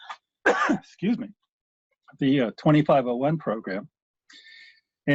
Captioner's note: coughs